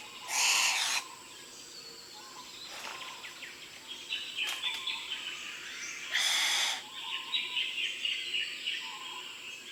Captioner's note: bowerbird sounds